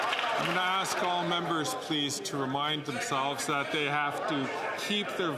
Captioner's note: some Applause